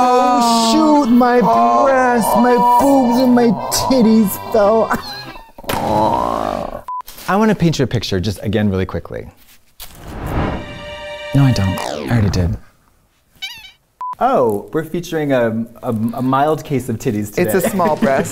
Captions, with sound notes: Oh, shoot. My breasts, my boobs, and my titties fell. [laughs] UNHhhh. I want to paint you a picture, just, again, really quickly. -[dramatic music plays] -No, I don't. -I already did. -[squeak] Oh, we're featuring a mild case of titties today. [laughing]